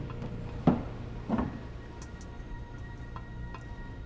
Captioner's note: glass thumping